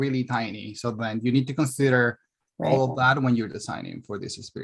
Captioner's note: mumbling